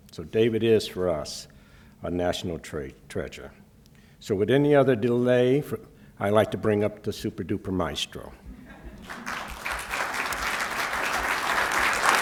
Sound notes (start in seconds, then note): 9.0 applause